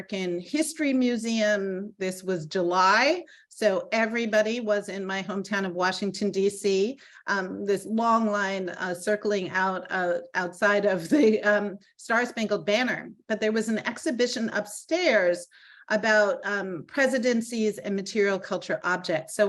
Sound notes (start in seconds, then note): 11.1 laughing